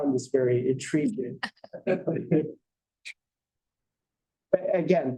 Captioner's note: laughter